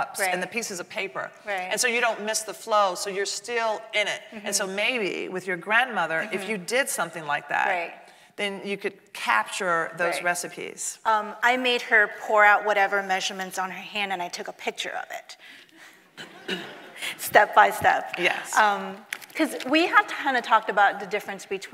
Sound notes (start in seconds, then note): 16.2 audience laughing